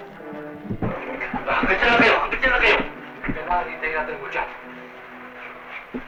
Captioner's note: non-english speech